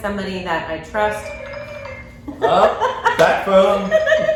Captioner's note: phone ringing